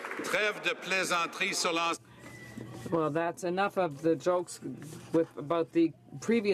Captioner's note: some Applause